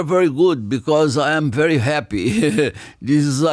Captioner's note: laughs